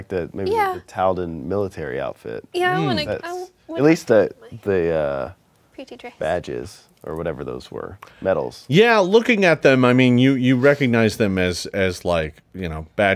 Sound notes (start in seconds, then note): none